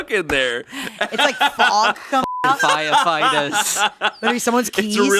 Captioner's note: beeping